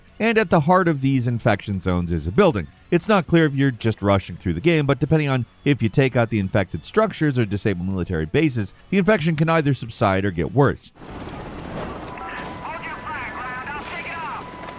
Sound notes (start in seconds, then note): 11.0 gun firing